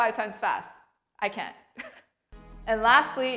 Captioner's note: chuckles